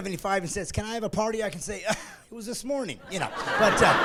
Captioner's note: laughing